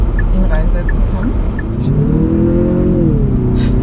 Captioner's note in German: Motoraufheulen